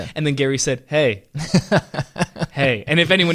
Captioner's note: laughing